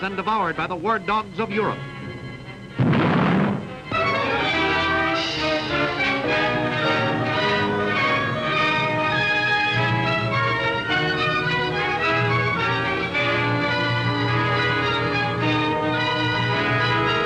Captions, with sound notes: and devoured by the war dogs of Europe. (explosion booms) (tense dramatic music)